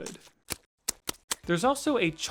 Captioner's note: damp, splattering winking